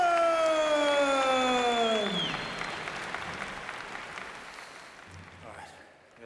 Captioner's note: cheering; applause